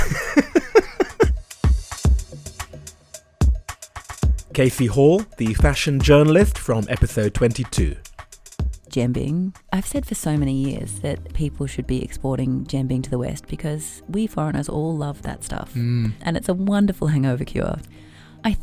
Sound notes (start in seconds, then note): 2.0 voiceover